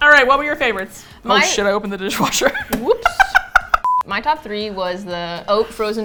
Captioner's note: laughs